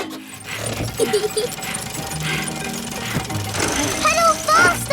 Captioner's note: mummy pig panting; peppa laughing